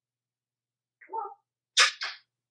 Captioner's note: kiss